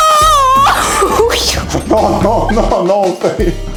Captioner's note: screaming